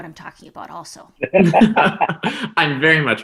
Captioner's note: laughing